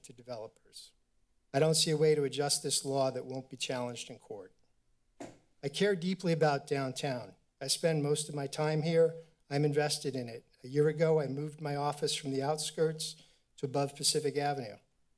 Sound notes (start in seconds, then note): 5.2 thud